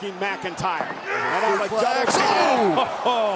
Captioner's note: commentators vocalizing